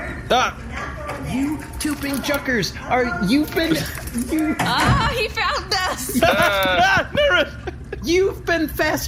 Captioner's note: skitters into the room; terrified